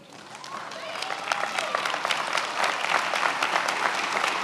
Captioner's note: many applauding